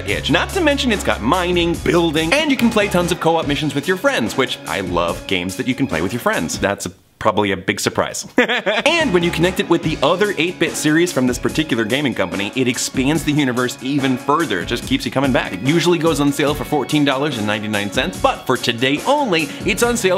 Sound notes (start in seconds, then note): 8.3 laughs